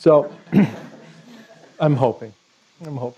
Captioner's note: laughter